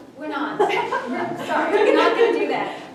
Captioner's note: laughter